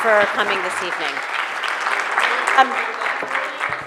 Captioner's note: applause